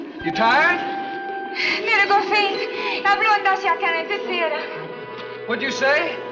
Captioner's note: Ann speaks Swedish